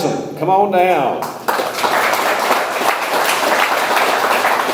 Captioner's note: audience applauds